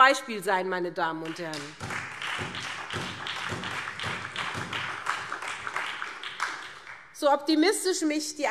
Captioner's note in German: Beifall